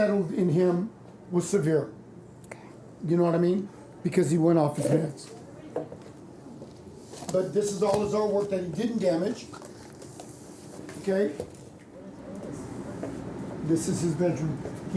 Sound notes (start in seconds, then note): none